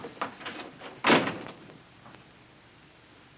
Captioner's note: door closes